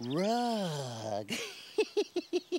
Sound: chuckles

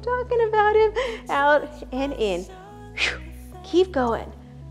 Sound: exhales

